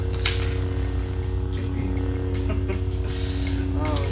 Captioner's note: chuckles